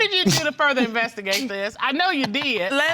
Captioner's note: laughing